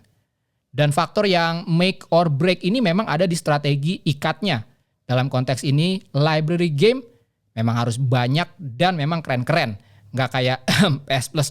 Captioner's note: ahem